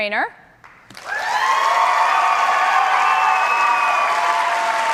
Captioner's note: cheers and applause